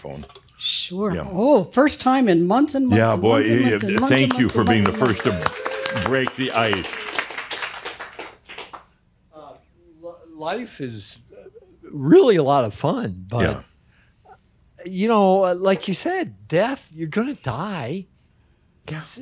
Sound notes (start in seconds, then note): 7.9 audience applause